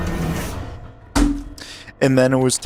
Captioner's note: slam in background